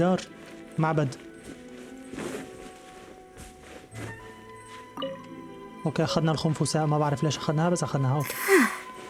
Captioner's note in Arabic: تنهد